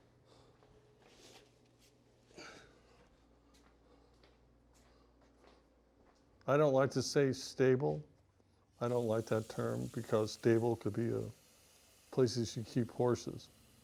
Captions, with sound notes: (grunting) I don't want to say stable, I don't like that term because stable could be places you keep horses,